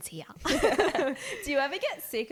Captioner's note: laughing